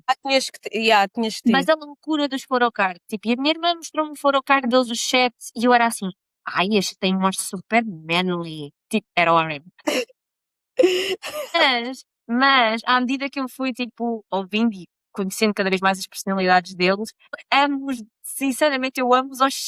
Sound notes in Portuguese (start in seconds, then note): 11.2 risadas